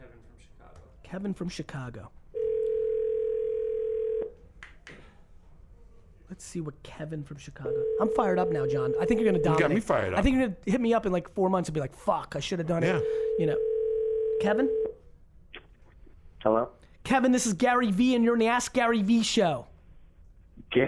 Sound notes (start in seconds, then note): 2.4 phone ringing